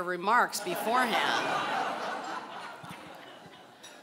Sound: laughing

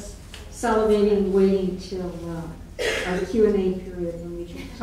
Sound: coughing

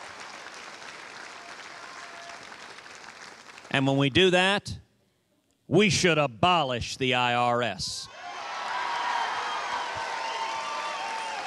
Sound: cheers and applause

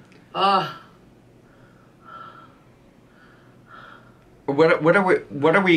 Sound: coughs; heavy breathing sounds

